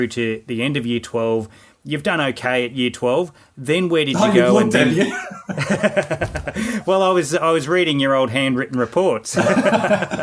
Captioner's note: both laughing